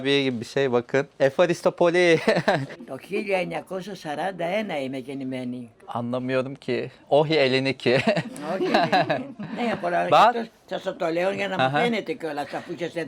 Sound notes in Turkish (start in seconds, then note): 7.9 kahkaha